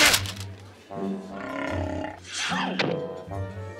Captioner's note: stomach growling